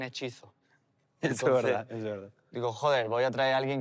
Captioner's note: laughs